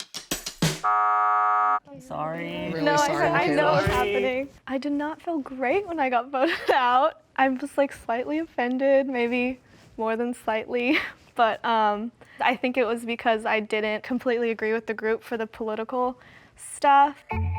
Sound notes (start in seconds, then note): 0.8 buzzer resounds